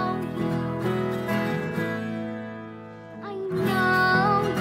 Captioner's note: gasps